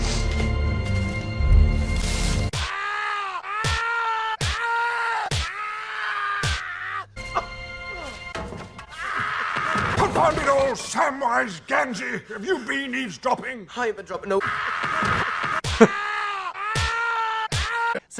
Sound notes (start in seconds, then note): 2.5 stabs from Gandalf plus screaming in pain